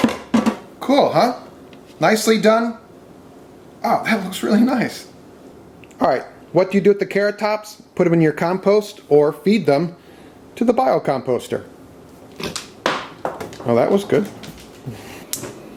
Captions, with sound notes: Cool, huh? Nicely done. Ah, that looks really nice! All right what do you do with the carrot tops? Put 'em in your compost or feed them to the bio composter. (dog chomps at the air) (carrot thuds against floor) Well that was good. (laughs)